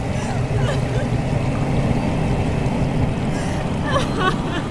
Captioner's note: Kate crying